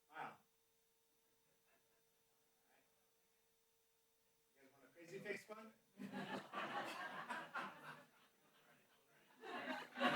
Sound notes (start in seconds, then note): 1.3 background chatter; 9.3 laughter